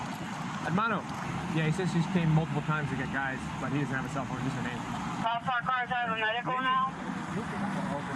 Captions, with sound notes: Hermanos Yeah, he says she's came multiple times to get guys but he doesn't have a cell phone just her name (Radio chatter)